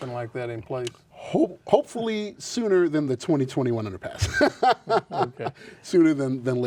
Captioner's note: laughs